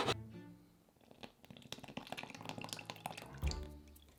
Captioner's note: liquid pouring